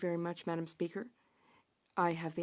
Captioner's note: speaking French